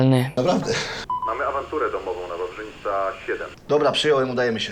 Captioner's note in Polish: radio